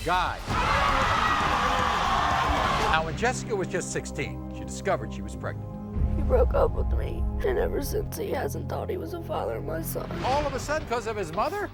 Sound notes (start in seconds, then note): 0.3 audience yelling and cheering